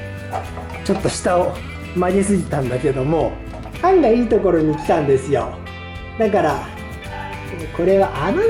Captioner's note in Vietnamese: cười lớn